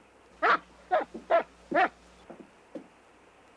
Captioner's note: dog barking